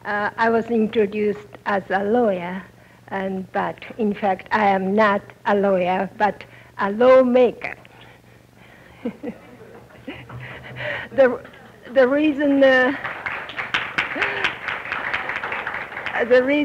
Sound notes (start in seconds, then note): 8.1 tense laughter; 12.8 applause